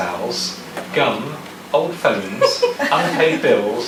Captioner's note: audience laughs